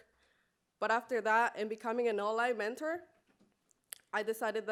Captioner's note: spanish speech